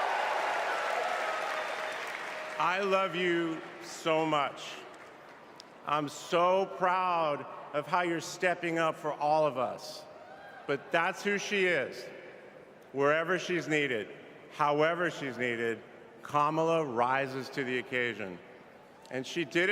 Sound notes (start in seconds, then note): 3.7 applause